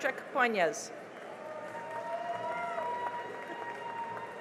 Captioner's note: cheering and applause